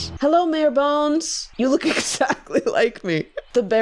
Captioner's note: laughing